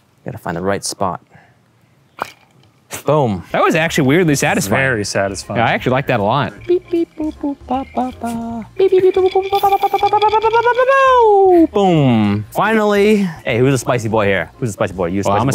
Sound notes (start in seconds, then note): 2.2 straw clinks